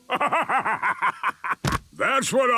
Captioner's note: bursting laughter